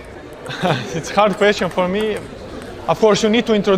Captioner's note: laugh